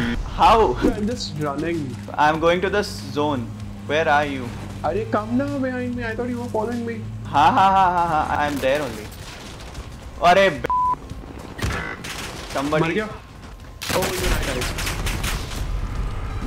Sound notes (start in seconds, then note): 7.3 man laughing; 12.7 speaking foreign language